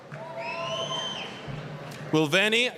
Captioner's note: applause, cheering